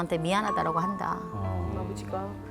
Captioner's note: sighs